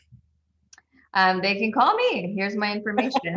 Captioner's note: laughs